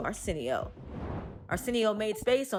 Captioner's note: air whooshes; upbeat music continues